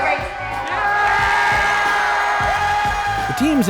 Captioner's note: loud cheering